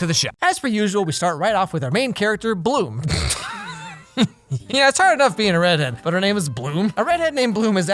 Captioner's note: snorts